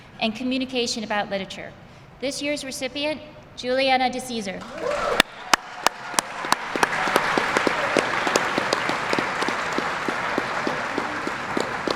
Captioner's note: applause